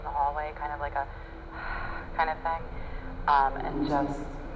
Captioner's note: exhales